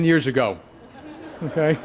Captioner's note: laughter